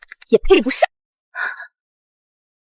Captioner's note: gasp!